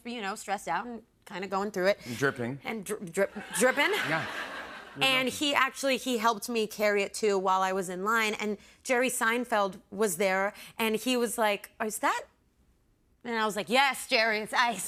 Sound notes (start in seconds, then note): 3.3 laughter